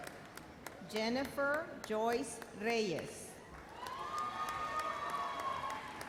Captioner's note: audience cheers and applauds